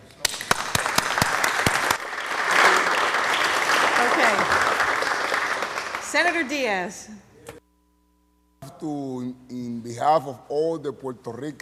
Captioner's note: applause